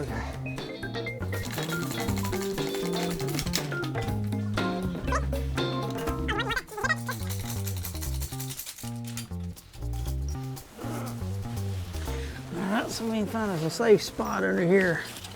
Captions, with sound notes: Okay (metal snaps) (bright upbeat music) (metal snapping rapidly) - (grunts) I'll also need to find if there's safe spot under here.